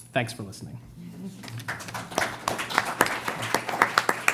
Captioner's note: clapping